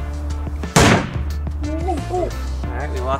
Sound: metal clanging

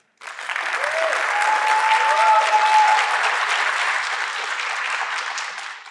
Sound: audience cheering and applauding

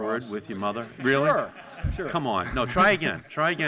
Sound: laughter

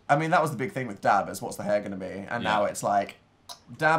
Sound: clicks

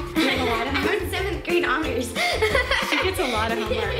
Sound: giggle; laughing

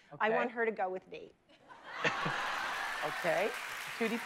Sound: laughter and applause

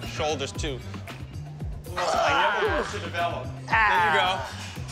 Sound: grunting

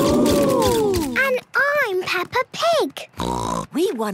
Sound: snort

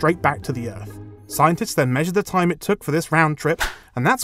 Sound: whoosh

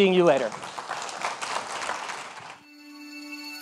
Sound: audience clapping

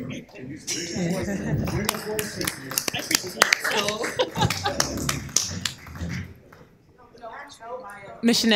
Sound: applause

